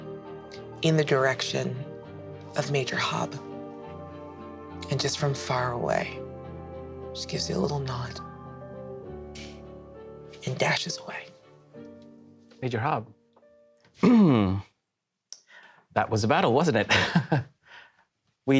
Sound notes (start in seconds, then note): 14.0 clears their throat; 16.9 laughs uncomfortably